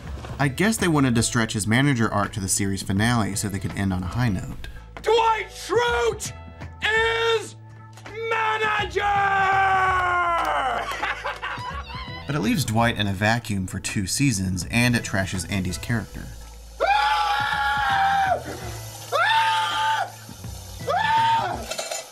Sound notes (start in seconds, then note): 11.1 cheering; 16.8 screaming